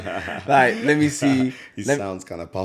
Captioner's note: laughs